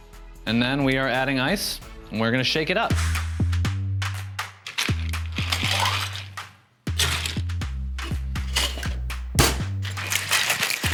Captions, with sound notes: And then, we are adding ice and we're gonna shake it up. (ice clattering) (scooper clangs) (shaker thuds)